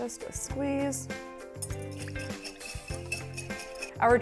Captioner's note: whisk clinks; dressing sloshes